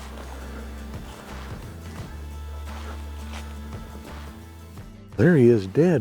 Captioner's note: feet shuffling; upbeat music